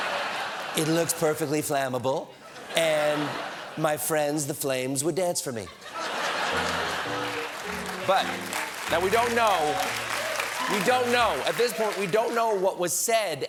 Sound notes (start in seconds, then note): 2.2 laughter; 5.6 laughter; 6.5 piano riff; 6.5 applause